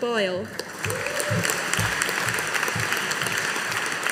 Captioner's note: audience applauding